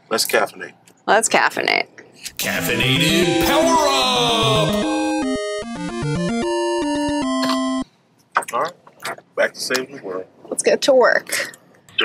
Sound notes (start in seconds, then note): 2.6 voiceover; 4.4 video game music